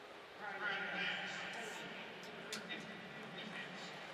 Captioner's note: referee call